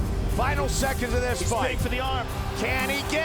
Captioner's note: crowd cheers